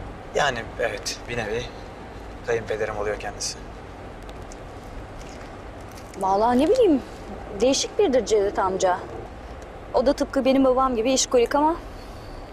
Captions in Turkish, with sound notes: Yani evet, bir nevi kayınpederim oluyor kendisi. (Araba sesi) Vallahi ne bileyim, değişik biridir Cevdet amca. O da tıpkı benim babam gibi işkolik ama...